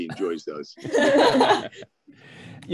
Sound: laughing

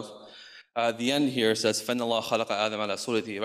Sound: speaks in foreign language

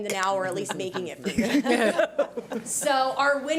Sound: audience laughs

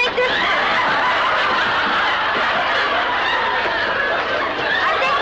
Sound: audience laughs

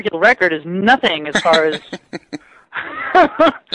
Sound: both laughing

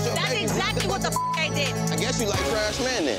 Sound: beep

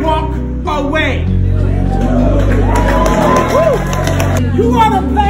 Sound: audience Woos

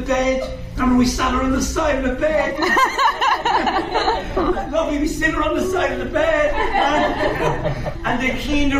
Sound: audience laughing

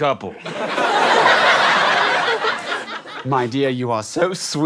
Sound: giggles

